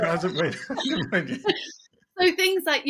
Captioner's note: laughing